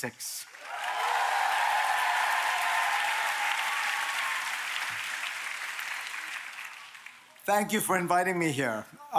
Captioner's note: applause